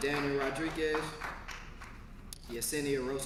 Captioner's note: applause